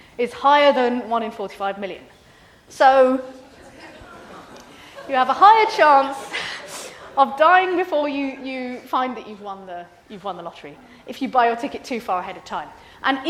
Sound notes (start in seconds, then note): 3.4 students laugh